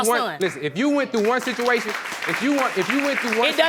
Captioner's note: applause